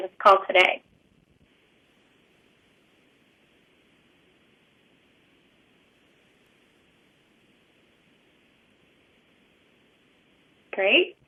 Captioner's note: pause